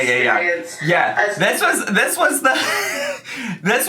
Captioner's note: laughs